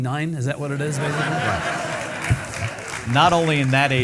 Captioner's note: audience laughing